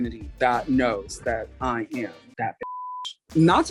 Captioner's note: beep